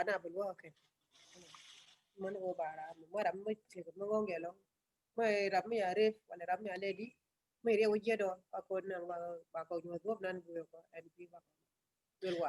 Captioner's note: speaking in another language/ Interpretation